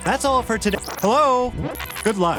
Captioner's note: rewind sound; fast forward sound